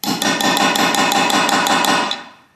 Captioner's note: hammering sounds